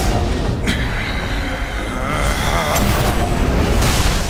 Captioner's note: groans